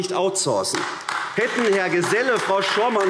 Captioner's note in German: Beifall AfD